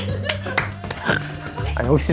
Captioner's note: snorts